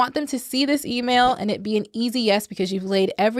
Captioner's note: whooshing